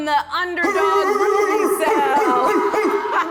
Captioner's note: barking